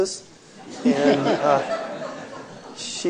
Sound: laughing

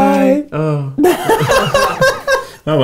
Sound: laughing

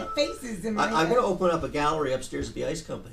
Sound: voiceover

